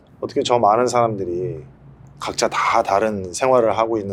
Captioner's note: speaks Korean